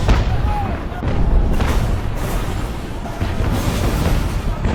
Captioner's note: explosions booming